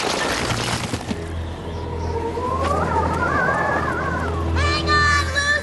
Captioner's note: whistling wind